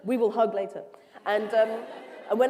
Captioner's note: cheers